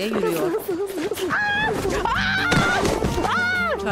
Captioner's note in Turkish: Düşme sesi